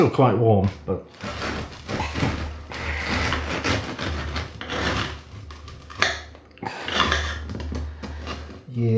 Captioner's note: hacking sawing